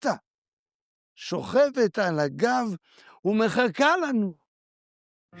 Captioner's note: speaking Hebrew